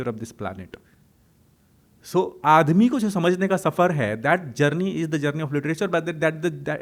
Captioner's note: hindi